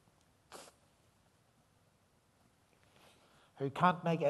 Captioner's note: snuiven